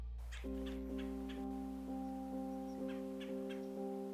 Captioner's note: birds chirping